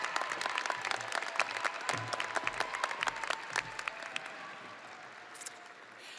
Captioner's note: audience cheering and applauding